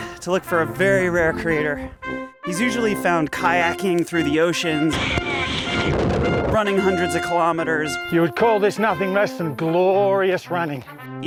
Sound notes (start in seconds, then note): 4.7 wind whipping; 4.9 water crashing